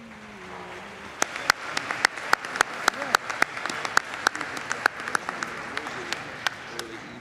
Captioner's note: applause